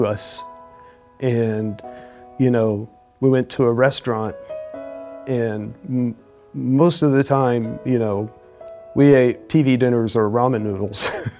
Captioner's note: chuckles